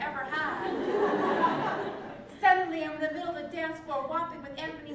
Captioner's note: laugh